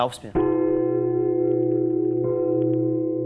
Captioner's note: Glockenläuten